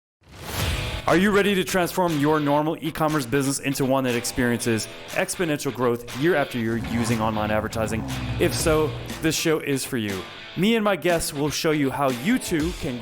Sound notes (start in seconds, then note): 0.7 upbeat rock music; 6.5 engine growls